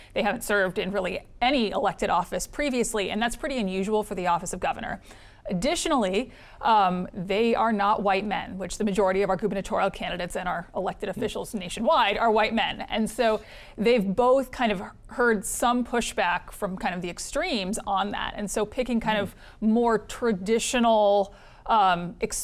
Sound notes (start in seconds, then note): none